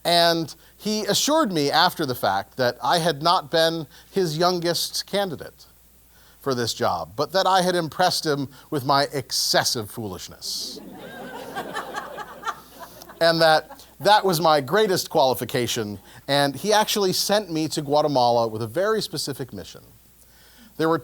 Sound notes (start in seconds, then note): 10.7 laugh